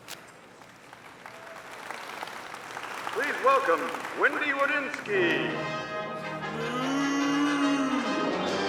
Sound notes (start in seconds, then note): 0.5 audience applauding; 8.5 upbeat music